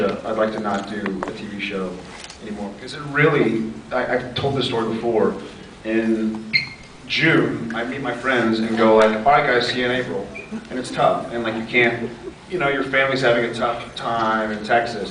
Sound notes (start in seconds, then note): 6.2 mic squeaks; 10.2 more mic squeaks